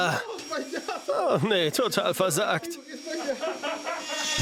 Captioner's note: and off-screen voice 1 laughing